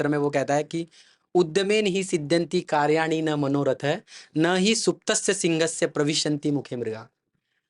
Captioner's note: speaking in Sanskrit